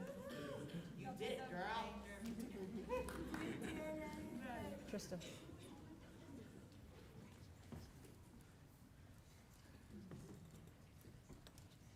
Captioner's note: applause